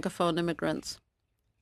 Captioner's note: speaking French